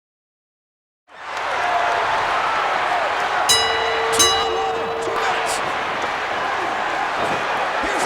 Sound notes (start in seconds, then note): 1.1 crowd cheers; 3.4 bell rings